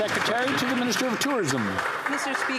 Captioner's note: some Applause